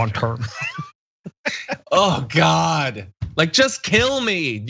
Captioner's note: laugh